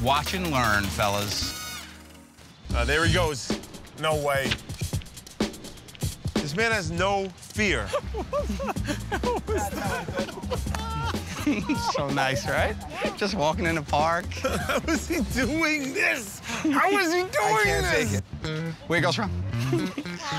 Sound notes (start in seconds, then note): 7.8 laughing; 14.1 chuckling